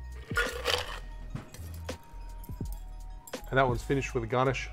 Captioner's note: ice cubes clink